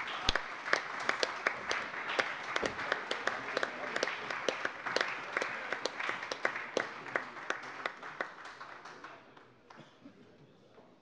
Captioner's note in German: Allgemeiner Beifall - überreicht einen Blumenstrauß